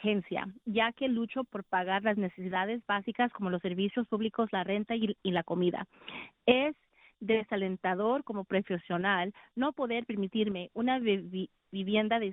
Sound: speaking spanish

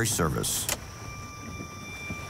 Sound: switch clicking; pensive music

